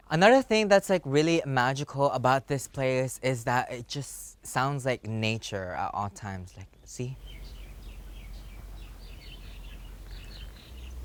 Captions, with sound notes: Another thing that's really magical about this place is that it just sounds like nature at all times. Like, see? [birds tweeting]